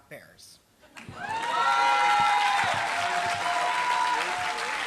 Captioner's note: applause